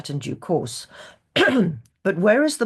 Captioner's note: clears throat